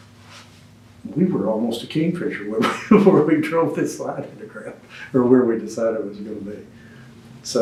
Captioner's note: laughs